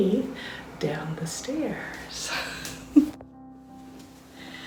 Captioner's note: laughter